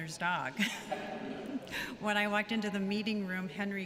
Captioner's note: laughter